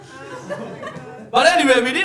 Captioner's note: audience laughing